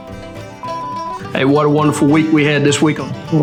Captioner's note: beep